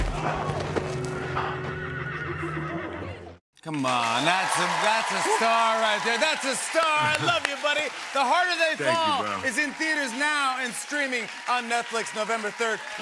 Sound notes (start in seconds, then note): 0.1 spectators shout; 1.1 horse whinnying